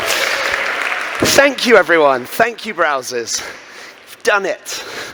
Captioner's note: cheering